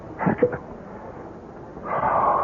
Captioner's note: laughs